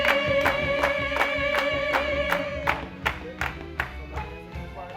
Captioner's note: cast clapping rhythmically